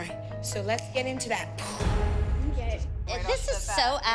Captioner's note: mimics explosion